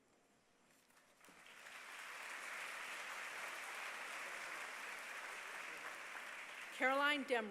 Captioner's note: applause